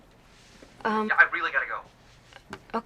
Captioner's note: on phone